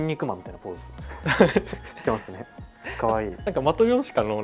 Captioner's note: laughs